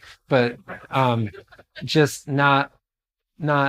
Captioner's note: laughter